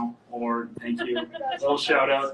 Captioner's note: laughs